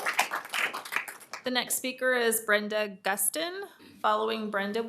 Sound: applause

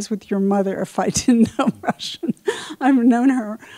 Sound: laughs

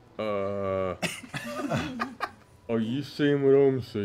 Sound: laughing

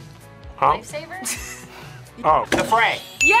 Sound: React laughs

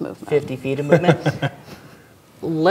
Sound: laughing

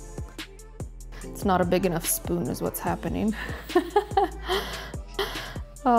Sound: laughs

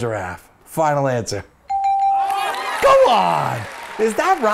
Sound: bell rings / audience applauds

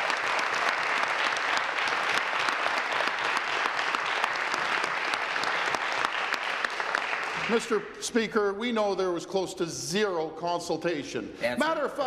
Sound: applause

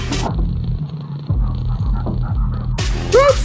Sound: cat sleeping and purring

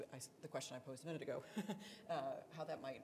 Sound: chuckles

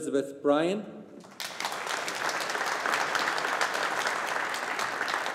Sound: audience applauding

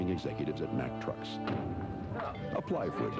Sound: slams like a truck door

